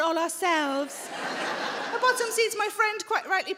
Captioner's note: audience laughing